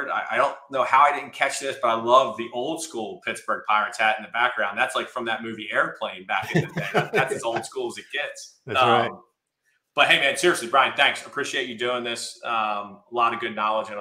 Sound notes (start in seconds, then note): 6.4 laughs